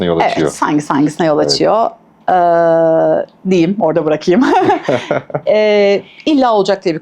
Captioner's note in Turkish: kahkaha